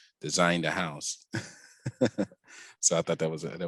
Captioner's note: laughs